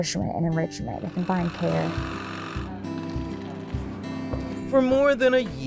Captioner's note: saw whirring